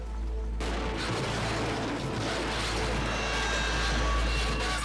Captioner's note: cars crashing; ominous music